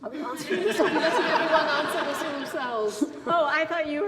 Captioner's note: laughs loudly